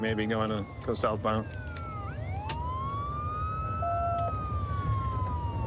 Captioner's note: sirens wailing